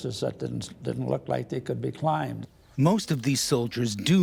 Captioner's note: voiceover